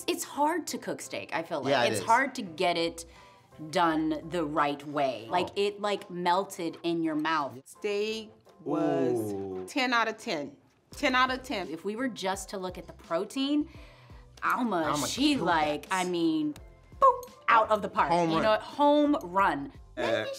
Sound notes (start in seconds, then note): 16.5 boops